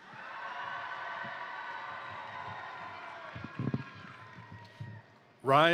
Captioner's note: crowd applauding; crowd cheering